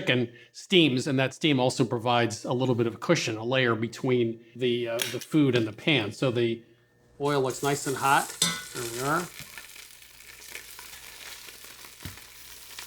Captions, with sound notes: a layer between the food and the pan. So the oil looks nice and hot. There we are. (sizzling)